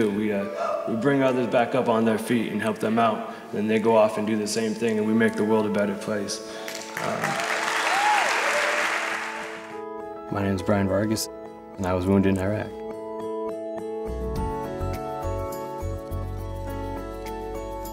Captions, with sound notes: We bring others back up on their feet and help them out. Then they go off and do the same thing and we make the world a better place. (applause) My name's Brian Vargas and I was wounded in Iraq. (pleasant music)